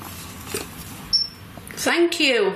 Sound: metre beeps

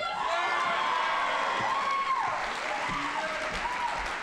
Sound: audience applauding

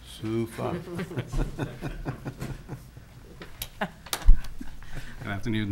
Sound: laughing

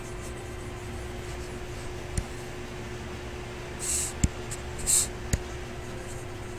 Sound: faint techno music; computer mouse tapping

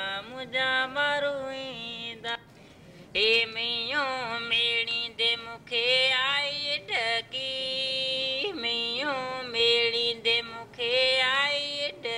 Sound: foreign Language

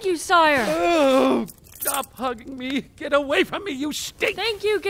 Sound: we hear the sound of keys

